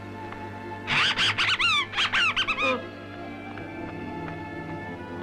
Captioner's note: animal screeching